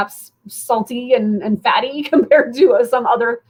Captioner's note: laughter